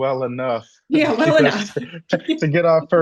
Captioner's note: laughs